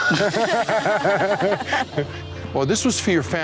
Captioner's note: laughter